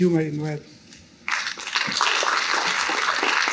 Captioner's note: applause